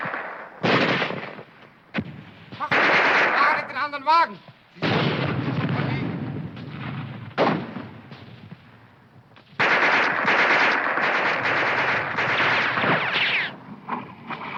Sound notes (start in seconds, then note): 3.3 shouting in foreign language; 9.3 guns firing